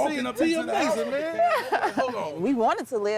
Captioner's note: laughter